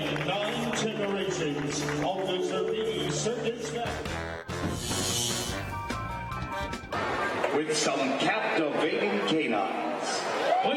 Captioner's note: cheering and applause